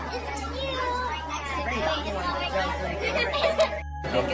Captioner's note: students chattering